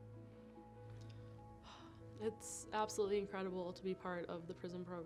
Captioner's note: sighs